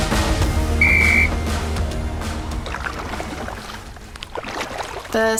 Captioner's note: whistle trilling